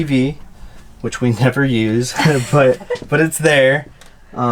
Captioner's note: laughs